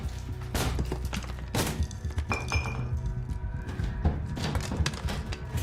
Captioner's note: wall smashing; very loud banging